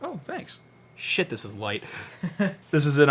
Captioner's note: laughs